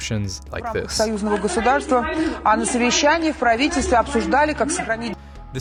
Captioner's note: chanting